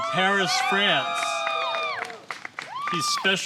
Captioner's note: applause